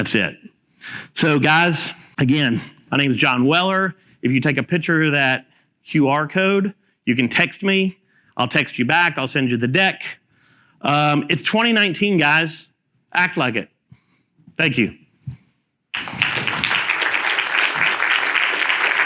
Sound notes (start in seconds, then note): 15.9 applauding